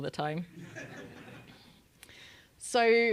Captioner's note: laugh